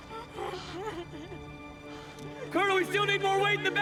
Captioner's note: crying